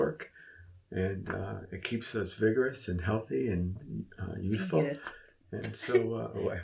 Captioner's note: giggles